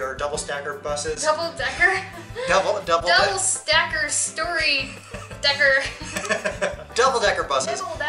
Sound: laughter

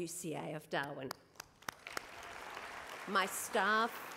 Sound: applause

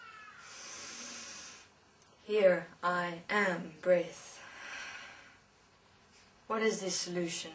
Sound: breathes in; breathes out

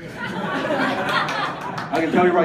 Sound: audience laughing

